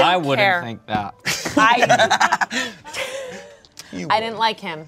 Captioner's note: laughs